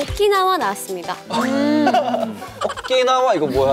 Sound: burst out laughing

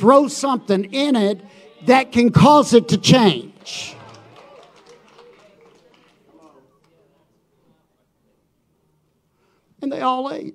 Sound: audience applauding

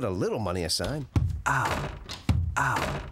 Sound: pulling door

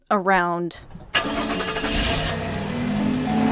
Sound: car ignition

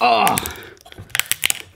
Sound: cracking; popping

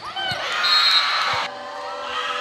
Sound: whistle; cheering

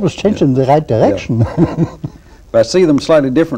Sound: laughter

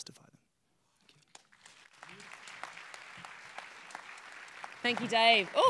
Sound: applause

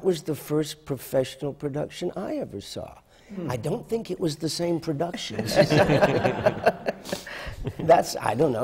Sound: laughter

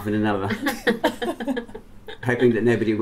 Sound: laughter

